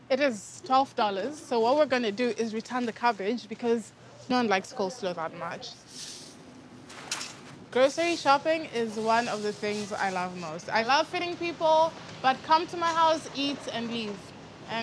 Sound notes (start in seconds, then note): none